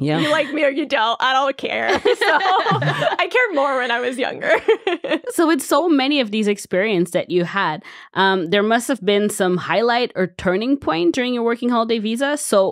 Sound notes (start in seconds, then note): 1.8 all laughing